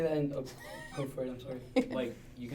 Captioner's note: laughs